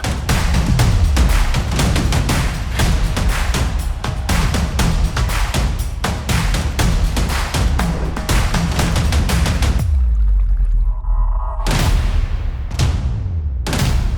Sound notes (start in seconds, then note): 0.2 percussive music playing; 9.7 water splashing; 11.6 percussive music playing